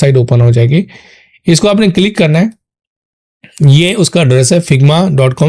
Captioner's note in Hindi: गला साफ़ करने की आवाज़